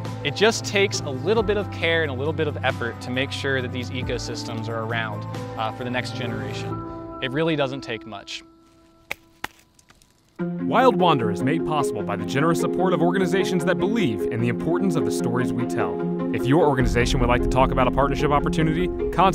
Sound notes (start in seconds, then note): 9.0 hand pats